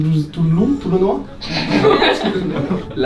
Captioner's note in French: rires